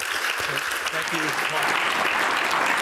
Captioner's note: applause